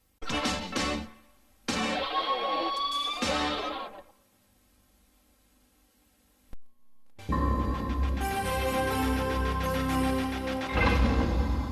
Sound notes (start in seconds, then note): 4.2 VHS static; 7.2 analog synth music resuming